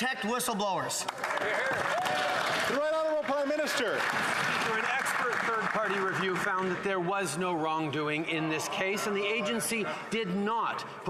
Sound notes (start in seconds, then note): 4.8 some Applause